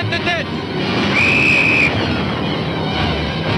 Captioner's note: whistle blowing; tense music